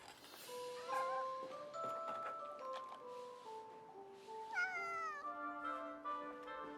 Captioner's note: Blinky meowing; curious expectant music